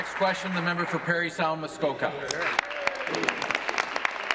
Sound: applause

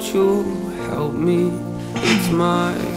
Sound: clears throat

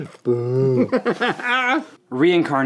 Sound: laughing

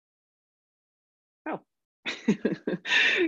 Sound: chuckles

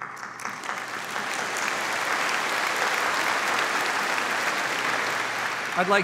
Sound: applauding

